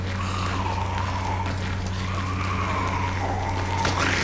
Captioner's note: zombie snarling